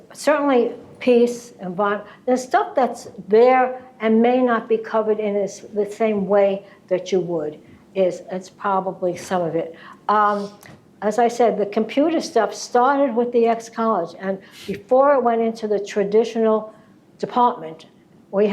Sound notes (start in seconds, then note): none